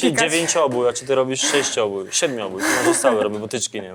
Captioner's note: laughs; clears throat